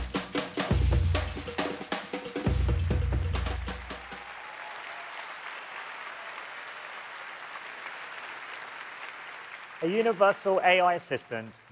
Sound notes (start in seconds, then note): 5.9 applause